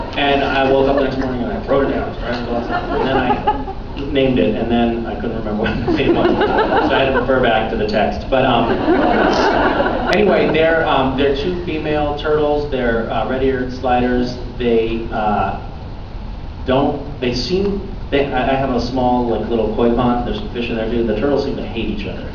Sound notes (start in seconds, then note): 5.5 laughing; 8.4 laughs